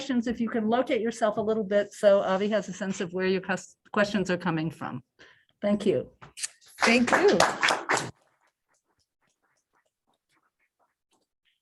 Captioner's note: applause